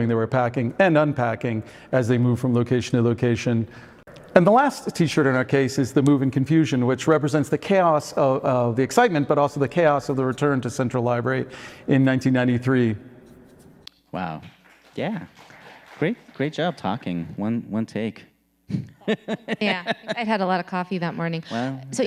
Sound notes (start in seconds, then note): 14.5 audience applauding; 18.7 laughing